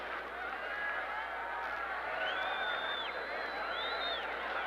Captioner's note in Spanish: bullicio del público